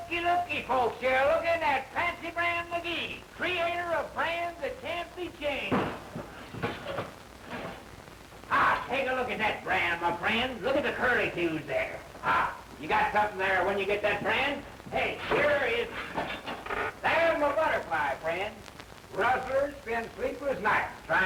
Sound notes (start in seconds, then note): none